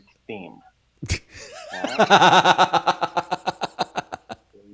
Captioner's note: laughs